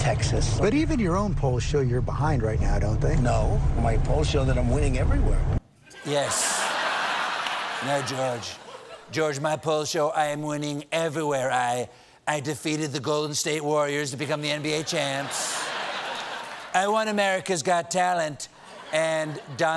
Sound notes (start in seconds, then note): 8.8 laughter